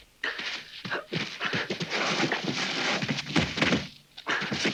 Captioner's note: hooves thudding